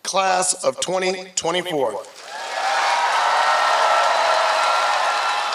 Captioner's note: applause